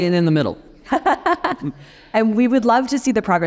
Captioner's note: laughing